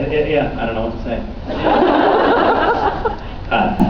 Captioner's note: laughs